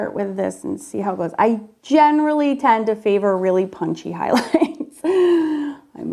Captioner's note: laughs